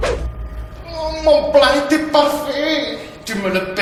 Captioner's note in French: Accent italien